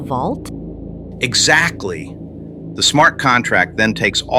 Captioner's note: excited